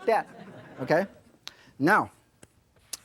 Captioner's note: audience laughing